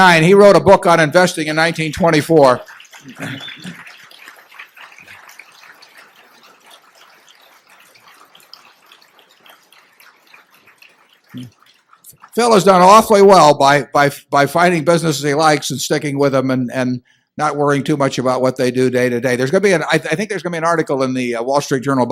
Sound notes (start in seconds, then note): 7.1 applause